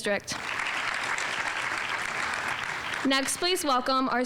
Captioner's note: audience applauding